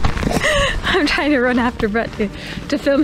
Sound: laughs

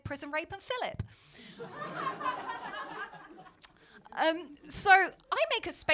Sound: laughter

